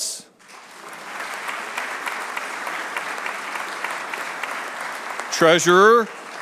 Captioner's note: applause